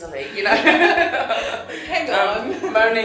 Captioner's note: laughing